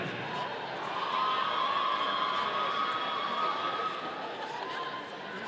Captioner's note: audience cheering